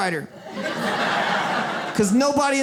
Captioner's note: audience laughs